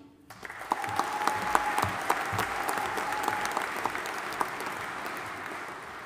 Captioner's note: audience applauding and cheering